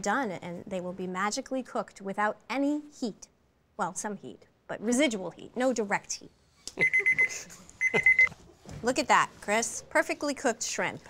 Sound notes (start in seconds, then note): 6.7 chuckling; 7.8 timer beeping